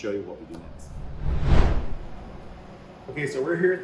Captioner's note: screen whooshing